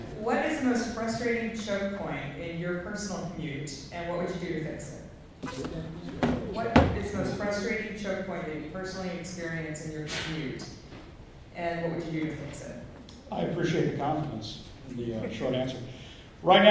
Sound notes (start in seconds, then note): 5.5 faintly speaking